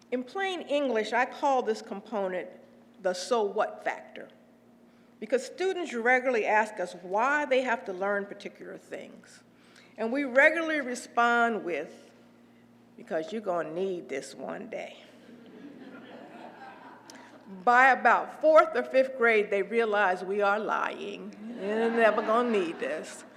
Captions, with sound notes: In plain English I call this component the so what factor. Because students regularly asked us, why they have to learn particular things? And we regularly respond with, because you're gonna need this one day. >> [LAUGH] >> By about fourth or fifth grade they realized we are lying and they're never gonna need this.